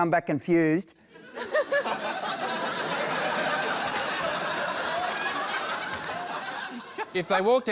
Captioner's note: laughter